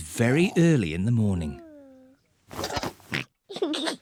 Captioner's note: oinks and giggles